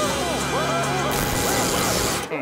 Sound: muffled screaming

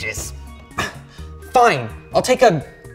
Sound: sighs

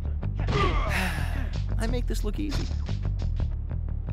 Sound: sigh

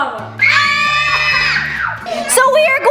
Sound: all scream

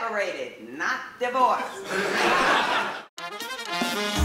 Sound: laughter

